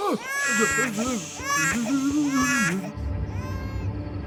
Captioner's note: man mutters fearfully; baby cries in distance